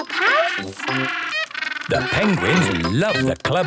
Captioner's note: honking